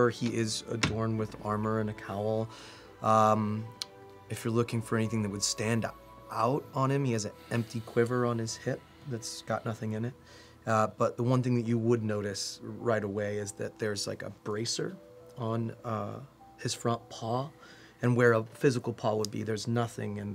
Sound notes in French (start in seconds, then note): none